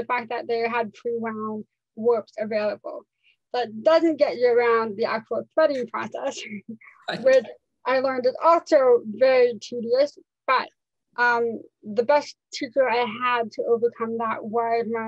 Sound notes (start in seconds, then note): 7.0 laughs